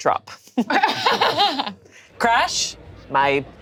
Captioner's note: laughs